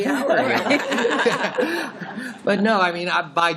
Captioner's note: laughter